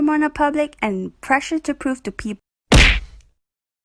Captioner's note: boom